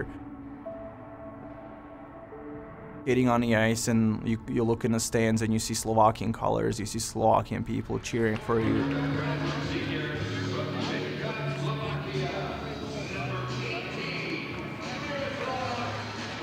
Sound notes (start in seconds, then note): 0.0 somber music; 8.4 crowd chatter